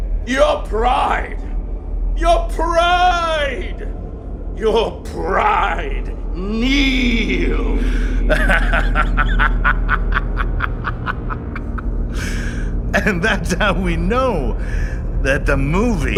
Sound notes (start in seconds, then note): 8.2 laughing